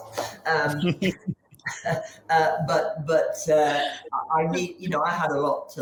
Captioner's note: chuckles; snickers; silently chuckles